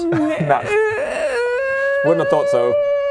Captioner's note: deciding how nice to be noises